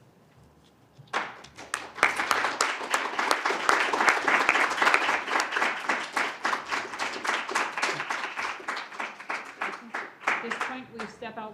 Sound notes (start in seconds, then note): 1.1 applause